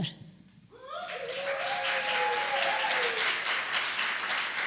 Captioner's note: applause and cheering